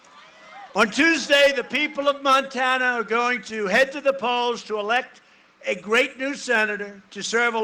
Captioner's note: cheering and applause